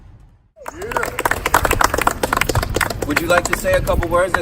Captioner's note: cheers